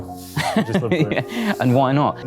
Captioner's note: laughs